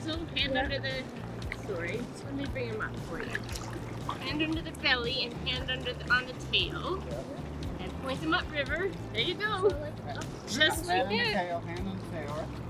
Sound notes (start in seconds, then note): 4.8 river burbling